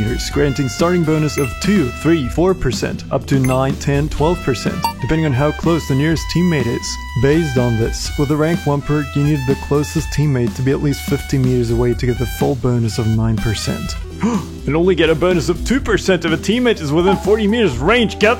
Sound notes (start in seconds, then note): 14.2 gasp